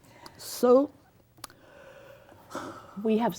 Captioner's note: heavy sigh